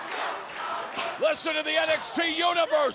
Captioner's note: fans chanting